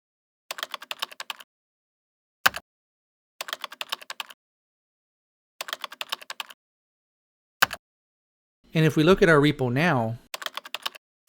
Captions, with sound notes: [typing] [typing] [typing] And if we look at our repo now...